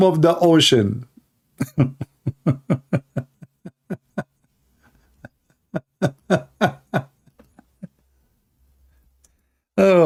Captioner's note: Ketawa